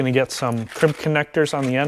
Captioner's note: connectors rattling